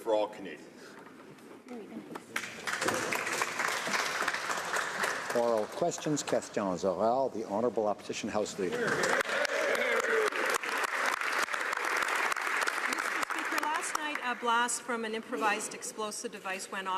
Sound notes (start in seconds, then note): 10.2 speaking French; 12.8 some Applause